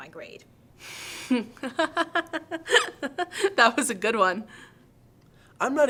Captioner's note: laughing